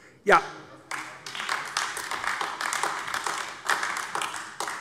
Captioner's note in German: Beifall AfD